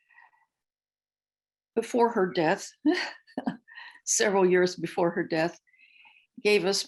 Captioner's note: laughter